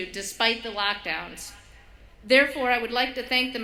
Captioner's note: none